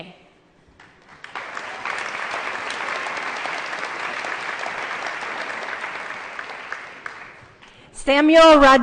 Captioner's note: applause